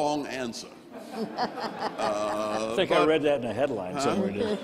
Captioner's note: all laughing